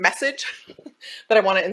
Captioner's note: chuckles